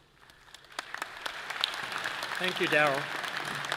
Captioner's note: all clapping